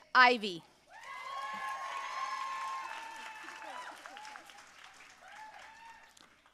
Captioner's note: audience cheering and applauding